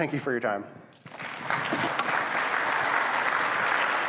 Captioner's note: audience claps